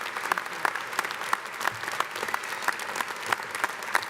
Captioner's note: applause